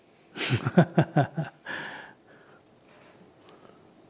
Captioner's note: laugher